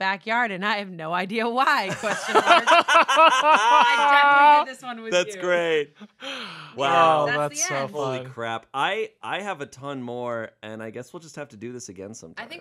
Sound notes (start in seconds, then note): 1.9 everyone laughs